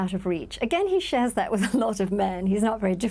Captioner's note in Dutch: lacht